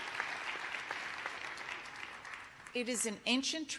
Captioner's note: cheers and applause